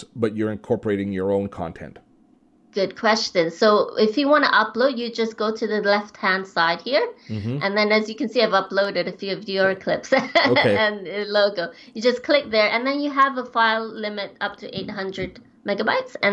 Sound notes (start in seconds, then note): 10.2 laughs